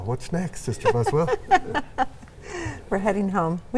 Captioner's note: laughs